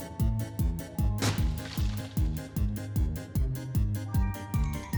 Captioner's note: dirt thudding